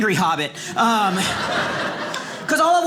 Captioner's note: audience laughing